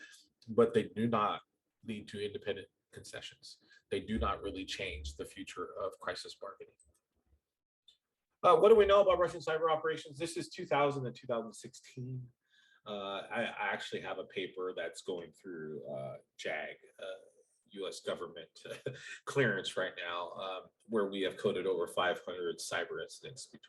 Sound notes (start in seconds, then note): 18.7 laughter